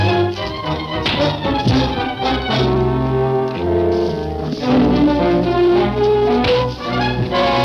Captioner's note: dramatic music; fists thudding